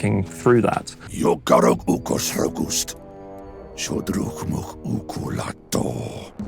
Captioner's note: speaking Orcish